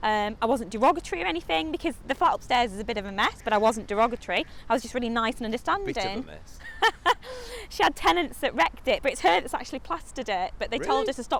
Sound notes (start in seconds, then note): 5.8 laughs